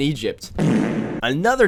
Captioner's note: fart